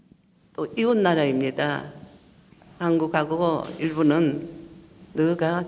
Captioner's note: speaking foreign language